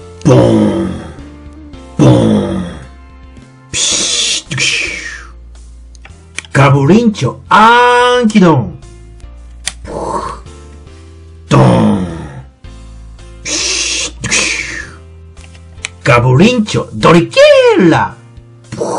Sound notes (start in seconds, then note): 6.6 beast battery loading sound; 15.3 beast battery loading sound